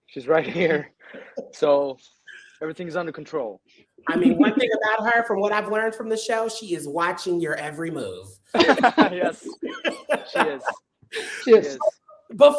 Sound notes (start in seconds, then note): 8.5 all chuckle